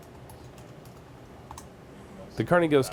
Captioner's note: clicking